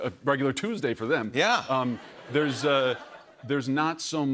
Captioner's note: laughter